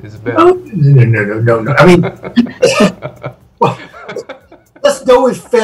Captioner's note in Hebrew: צוחקים